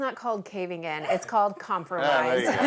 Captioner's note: laughs